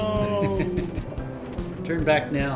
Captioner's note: laughs